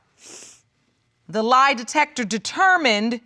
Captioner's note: sniffles